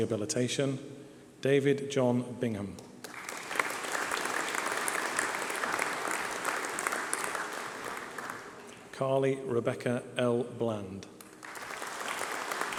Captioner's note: applause